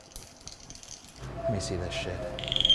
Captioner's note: rods rattling